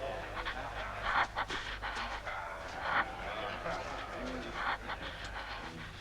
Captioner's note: Hundra breathing heavily